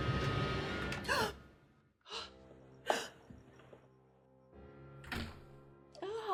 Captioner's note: door clicks; Eleanor gasps